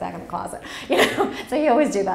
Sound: laughs

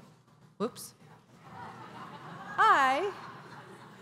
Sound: laughter

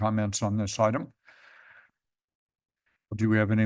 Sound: inhales

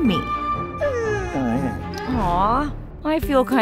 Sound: dog whining

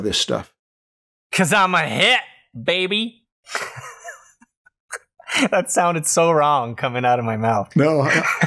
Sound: chuckles

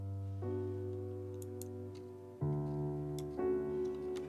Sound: gentle piano music; mouse clicks

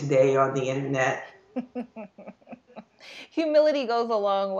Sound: laughing

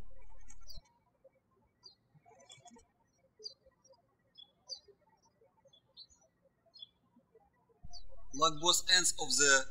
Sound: birds chirping

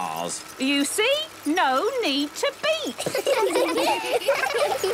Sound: laughter

